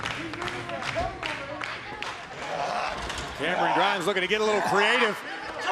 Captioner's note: crowd chatter